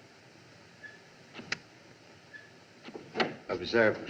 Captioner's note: switch Clicks